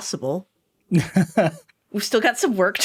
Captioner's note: laughing